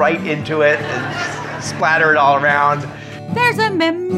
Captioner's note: audience laughs